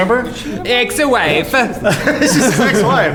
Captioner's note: Italian accent